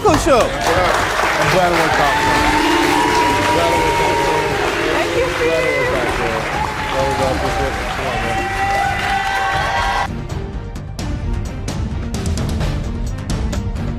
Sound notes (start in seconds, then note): 6.5 audience cheers; 10.1 dramatic orchestral music